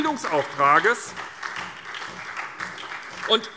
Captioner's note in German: Beifall SPD